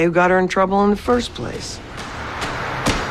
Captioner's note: scoffs